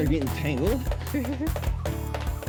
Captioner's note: giggles